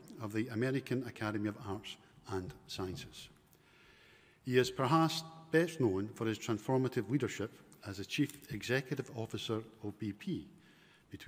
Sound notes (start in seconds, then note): none